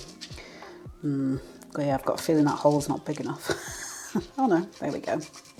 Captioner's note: laugh